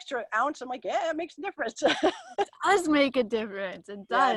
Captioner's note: laughs